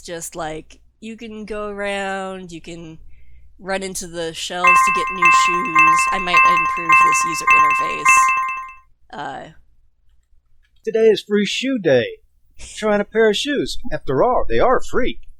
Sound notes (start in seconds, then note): 4.6 jingley sound effect from game; 4.6 jingley sound effect from game continue each time shoes change